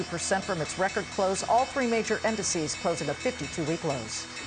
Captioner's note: closing bell rings